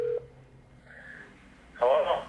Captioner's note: phone ringing